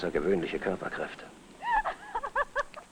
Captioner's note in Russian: женский смех